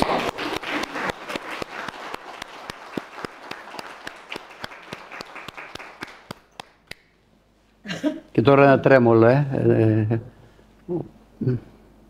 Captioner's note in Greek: χειροκρότημα